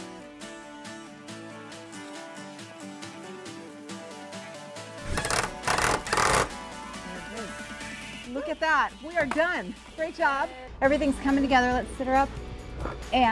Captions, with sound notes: (upbeat music continues) (drill rattles) - Look at that. We are done. Great job. Everything's coming together. Let's sit her up,